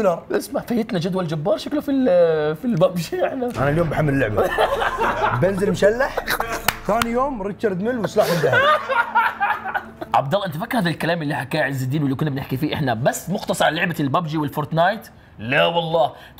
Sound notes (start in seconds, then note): 4.2 laughing; 8.1 laughing hysterically